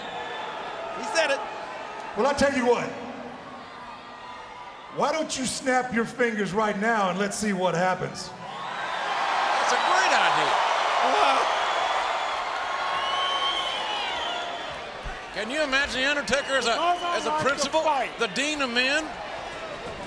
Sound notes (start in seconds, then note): 8.6 audience cheers